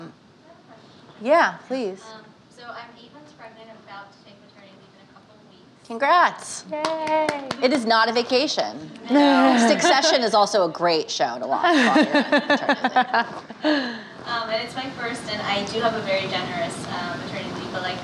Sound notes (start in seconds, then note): 6.8 clapping; 11.6 laughing